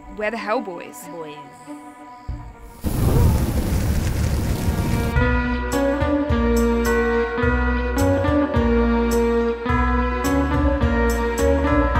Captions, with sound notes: We're The Hell Boyz. Boiizz... [distant fiery screams]